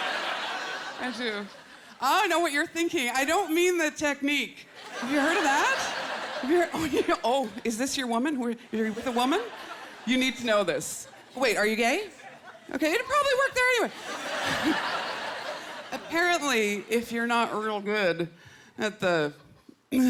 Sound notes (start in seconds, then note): 13.8 laughter